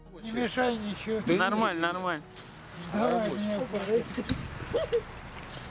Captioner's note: interviewee speaking in Russian